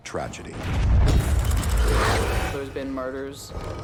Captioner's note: rumbling & snarling